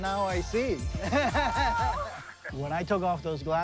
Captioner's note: laughing